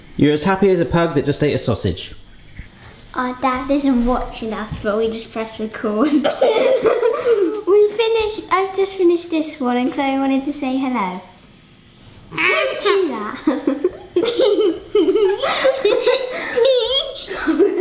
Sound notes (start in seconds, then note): 13.3 girls laughing